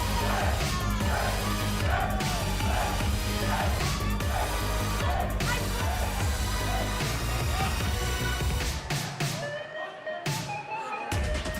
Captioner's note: fans chanting